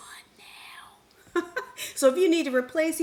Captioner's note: chuckles